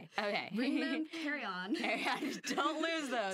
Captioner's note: laughing